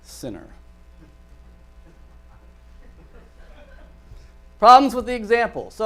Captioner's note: audience laughter